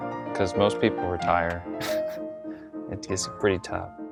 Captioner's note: chuckles